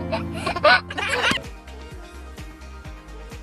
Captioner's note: claps; giggles